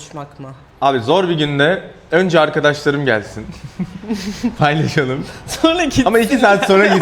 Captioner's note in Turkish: kahkaha